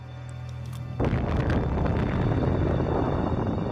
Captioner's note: explosion reverberates